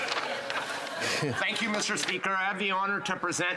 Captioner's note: laughter